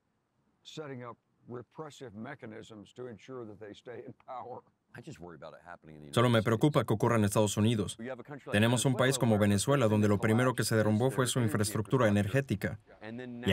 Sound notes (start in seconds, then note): 8.9 laughs